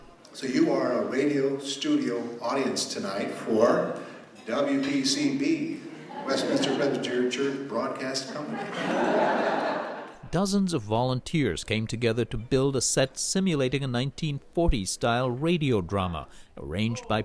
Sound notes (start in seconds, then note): 8.3 laughter